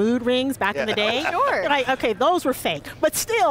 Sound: laughter

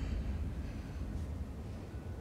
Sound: none

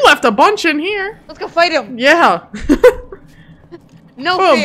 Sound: chuckles

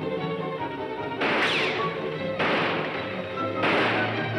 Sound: gunshots firing

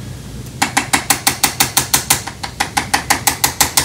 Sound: machine cracking

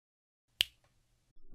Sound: click!

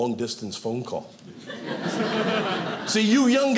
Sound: audience laughing

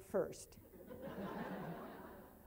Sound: laughing

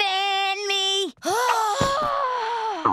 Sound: sighing

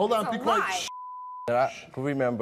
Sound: beep

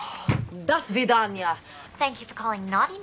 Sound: foreign language

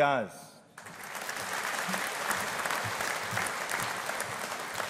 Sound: audience applauding

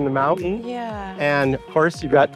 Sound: humming

